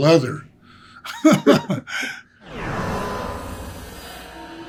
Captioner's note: Greg laughing